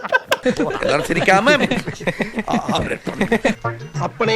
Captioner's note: team laughing in style